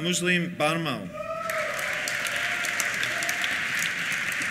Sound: cheers; applause

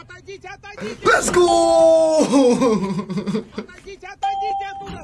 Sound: laughs

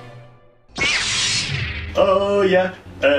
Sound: beam rod sounds

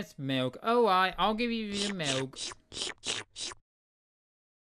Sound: jess drinking sound

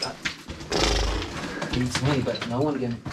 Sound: brays

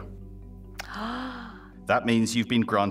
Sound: gasping

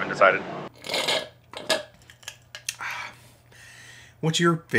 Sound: slurping

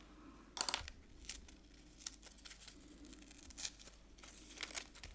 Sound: paper tearing

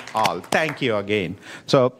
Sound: applause

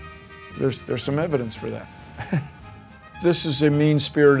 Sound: laughs

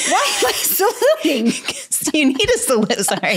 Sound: laughs

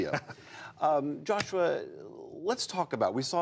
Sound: laughter

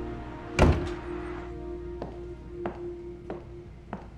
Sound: door slams shut

